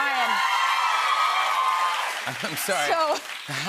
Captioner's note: cheers and applause